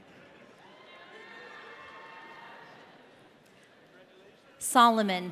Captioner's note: audience cheering